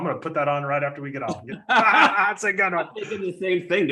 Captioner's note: laughs